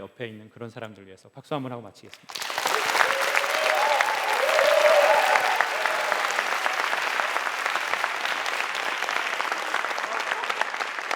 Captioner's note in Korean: 박수와 환호